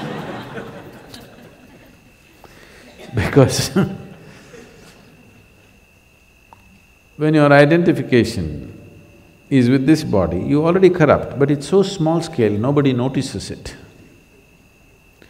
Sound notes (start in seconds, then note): 0.0 laughter; 2.8 laughs